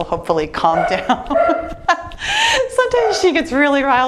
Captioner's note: laughs